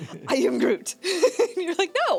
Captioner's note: laughs